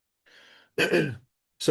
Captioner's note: clears throat